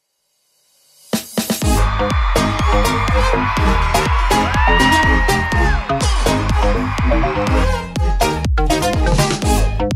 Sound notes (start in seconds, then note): 1.6 crowd cheering; 6.3 upbeat music continues